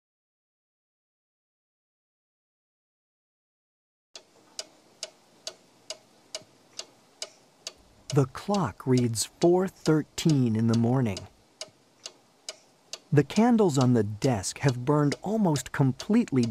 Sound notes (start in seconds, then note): 3.8 clock ticking